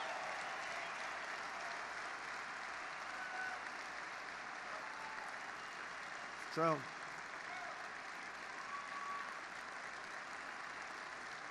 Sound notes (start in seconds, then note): 3.1 applause